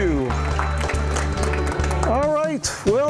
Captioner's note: applause